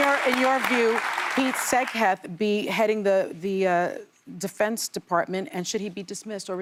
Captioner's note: applause